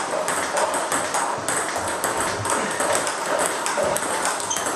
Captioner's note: ball ping pong hitting continues